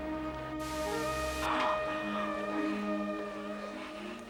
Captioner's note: static crackles